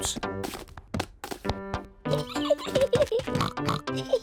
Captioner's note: giggles and oinks